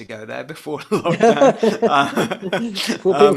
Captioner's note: laughs